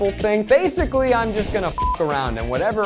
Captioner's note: beep